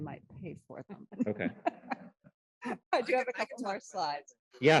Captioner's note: laughter